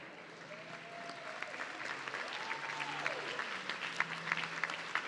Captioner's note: audience cheering